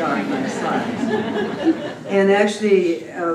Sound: laughter

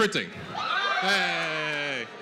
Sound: cheering

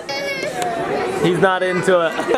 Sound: baby cries

